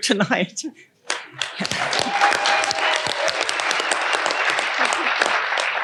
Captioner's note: audience applauding